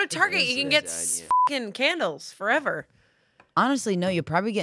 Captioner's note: beep